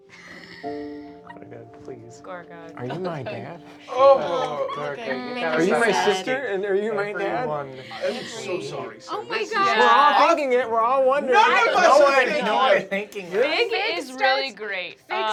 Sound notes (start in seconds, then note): 0.1 laughter; 4.2 everyone groans; 11.5 everyone chattering